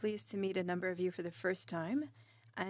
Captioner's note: speaking in French